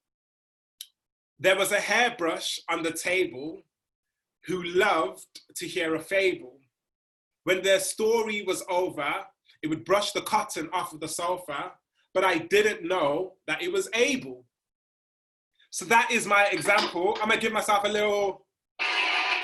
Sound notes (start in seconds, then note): 18.9 applause sounds